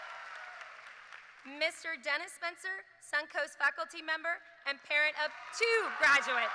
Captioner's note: cheers and applause